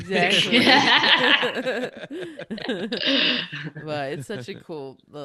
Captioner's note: laughing